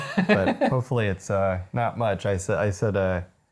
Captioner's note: laughing